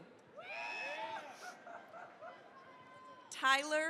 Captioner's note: cheering, applause